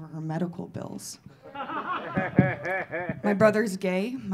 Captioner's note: audience laughing